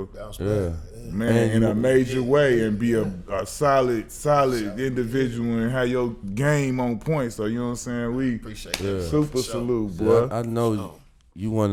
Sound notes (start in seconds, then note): 8.7 hand slap